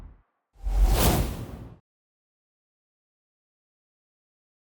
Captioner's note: whoosh